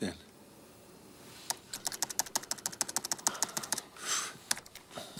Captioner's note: keyboard clicking